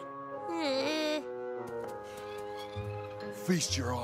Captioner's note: groans